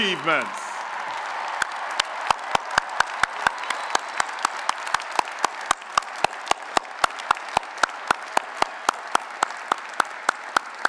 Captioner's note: applause and Cheering